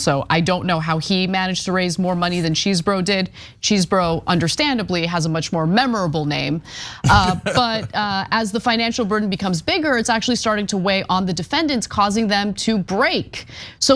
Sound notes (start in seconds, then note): 7.0 laugh